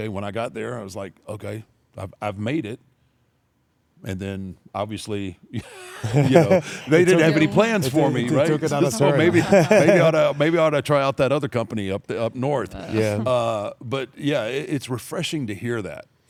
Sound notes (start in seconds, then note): 5.6 laugh